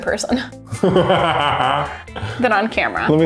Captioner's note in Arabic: يضحك